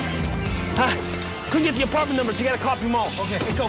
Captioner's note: grunts